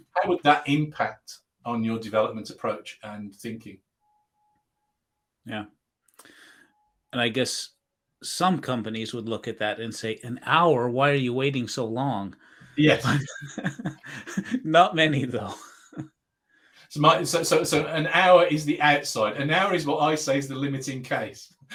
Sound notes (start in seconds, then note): 12.8 laughing